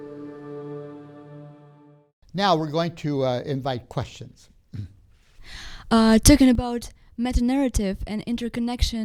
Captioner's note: clears throat